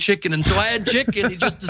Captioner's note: laugh